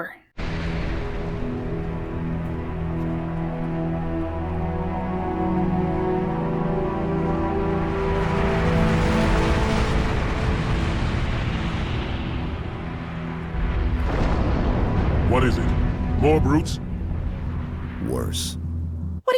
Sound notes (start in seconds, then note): 13.6 crash!